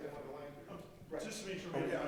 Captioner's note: speaks off microphone